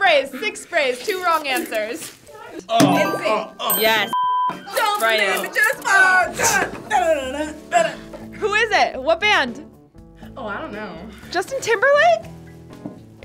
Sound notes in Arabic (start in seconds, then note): 4.7 زمارة